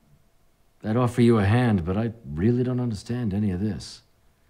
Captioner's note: none